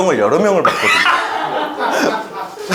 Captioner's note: ah ha ha ha ha